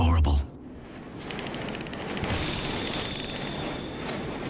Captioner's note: valve noises